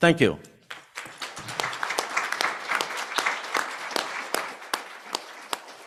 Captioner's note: applause